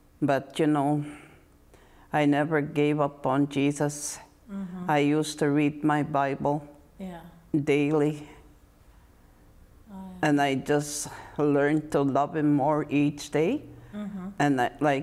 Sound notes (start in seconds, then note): 13.2 mmm hmm